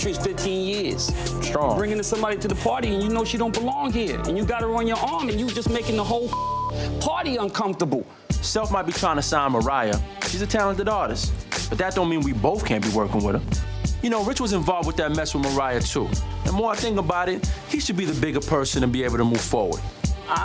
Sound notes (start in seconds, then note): 6.3 beep